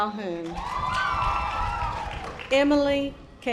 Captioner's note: audience applause